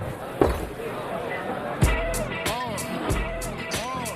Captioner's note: glass set down